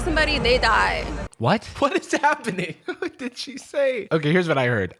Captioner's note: laughing